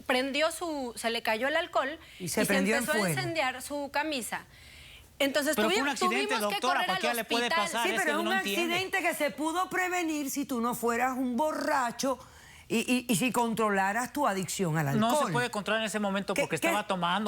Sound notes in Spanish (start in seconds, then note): 7.9 Hablan al unísono